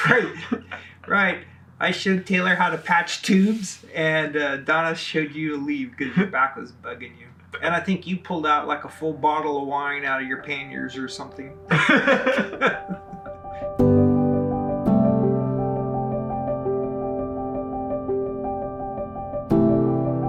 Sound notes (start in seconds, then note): 0.0 laughing; 11.6 both laughing